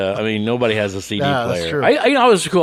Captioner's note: laughing